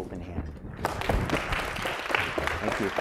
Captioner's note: applause